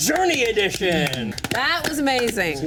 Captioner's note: all clapping